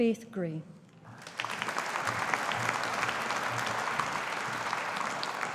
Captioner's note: audience applauding